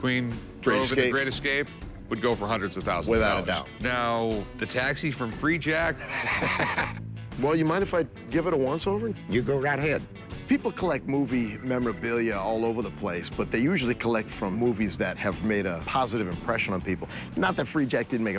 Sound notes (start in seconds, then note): 6.0 laughs